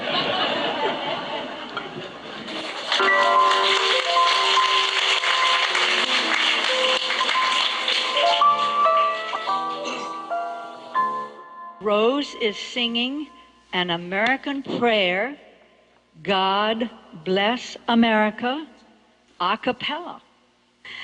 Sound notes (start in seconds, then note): 0.0 audience and contestants laughing; 3.0 enchanting music